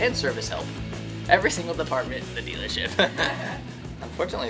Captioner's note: laughs